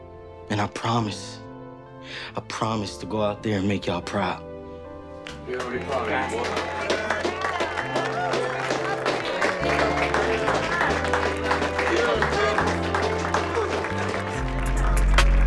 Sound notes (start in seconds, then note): 5.7 group applauding; 8.2 warm heartfelt music continues